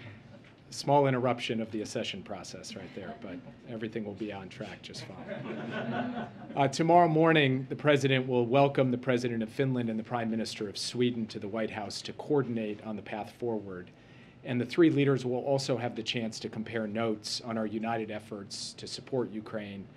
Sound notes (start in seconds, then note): 5.0 laughter